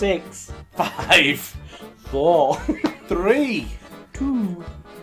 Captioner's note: laughing